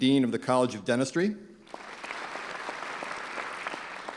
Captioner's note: clapping